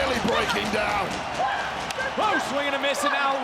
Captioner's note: crowd cheering